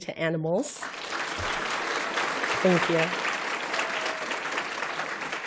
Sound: applause

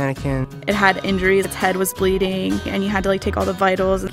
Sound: voiceover

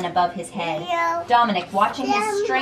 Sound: babytalk

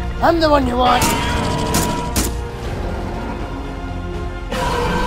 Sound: more shots fired

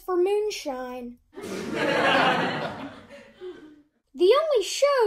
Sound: laughter soundtrack

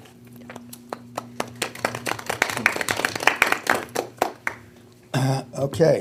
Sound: board members applauding

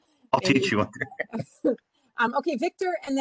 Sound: chuckles

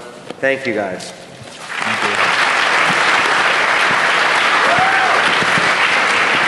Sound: applause

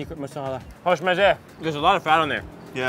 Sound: speaks foreign

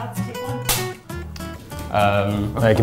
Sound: snap

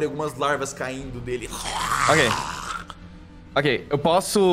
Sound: growl

